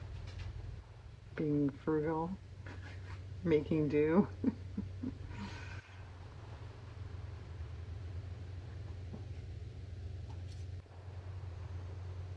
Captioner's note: laughs